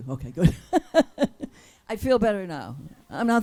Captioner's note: laughs